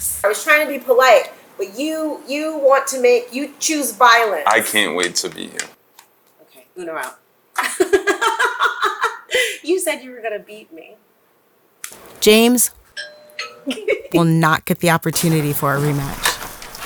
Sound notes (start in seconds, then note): 8.0 laughs; 13.0 doorbell rings